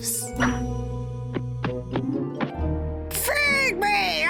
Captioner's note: deep voice